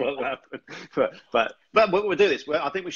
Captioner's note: laughs